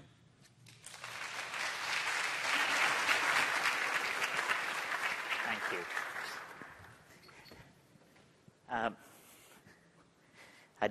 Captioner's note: applause